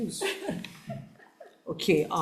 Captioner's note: laughs